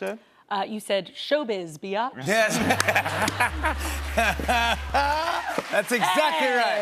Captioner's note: laughs